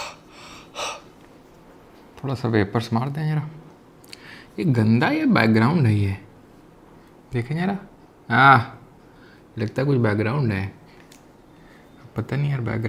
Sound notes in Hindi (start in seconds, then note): 0.0 हांफने की आवाज़; 0.0 अचानक ज़ोर से सांस लेने की आवाज़